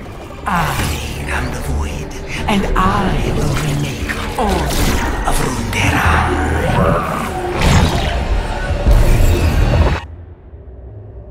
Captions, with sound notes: I am the Void and I will remake all of Runeterra. (VEL'KOZ WAILS)